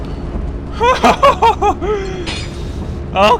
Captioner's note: more relief laughter